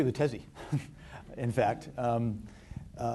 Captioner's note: chuckles